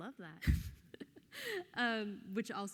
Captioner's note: laughs softly